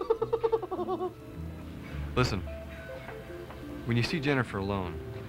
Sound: laughing

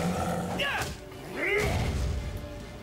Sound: both grunting

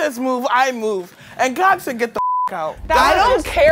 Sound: beep

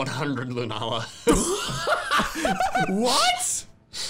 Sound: laughing

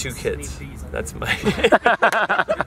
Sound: laughter

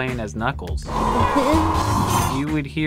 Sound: moan

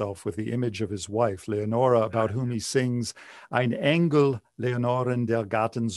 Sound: speaking german

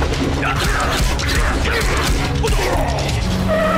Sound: grunting

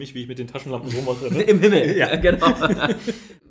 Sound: laughs

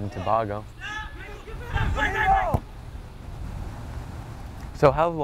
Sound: players talking and yelling

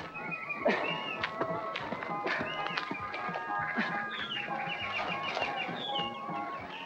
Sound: birds chirping; grunting, scuffling

